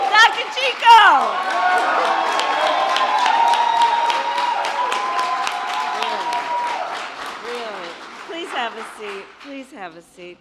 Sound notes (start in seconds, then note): 0.0 applause